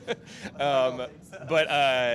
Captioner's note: laughs